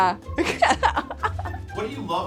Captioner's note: laughs